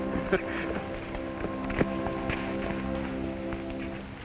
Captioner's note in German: Matt lacht